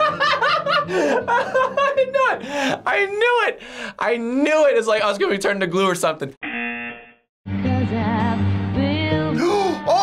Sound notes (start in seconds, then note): 6.4 buzzer